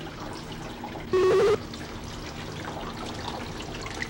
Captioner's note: buzzing/beeping